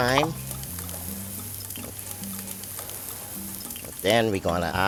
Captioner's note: pan sizzling